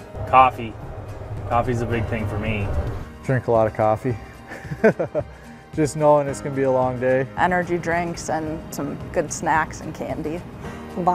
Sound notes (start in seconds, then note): 4.5 laughs